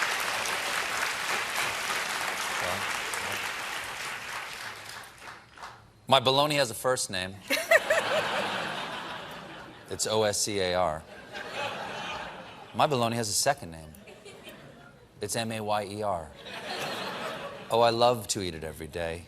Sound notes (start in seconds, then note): 0.0 applause; 7.4 laughter